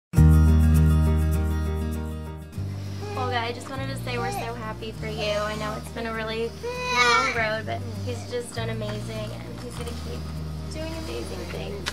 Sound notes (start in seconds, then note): 0.1 uplifting music; 6.3 baby cries